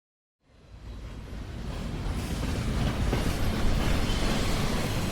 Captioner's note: train rumbling